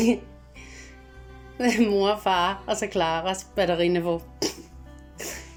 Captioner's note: giggles